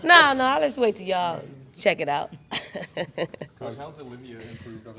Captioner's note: chuckles